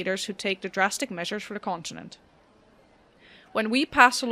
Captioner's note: crowd noises begin